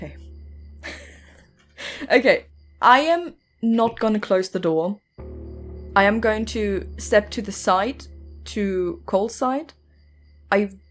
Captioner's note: laughs